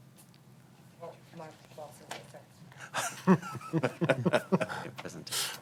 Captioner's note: laughter